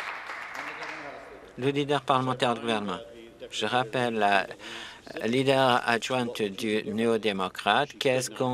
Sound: some Applause

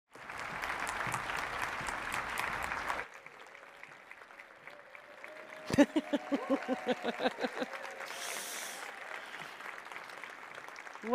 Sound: applause

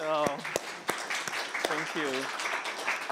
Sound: applause

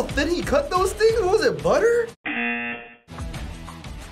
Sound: buzzer

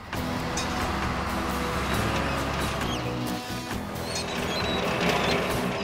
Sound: engines Running

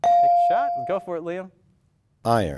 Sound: ding

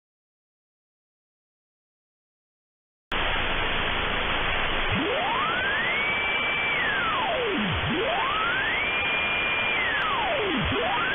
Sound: sound of fluctuating radio

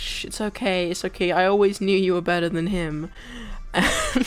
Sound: laughs

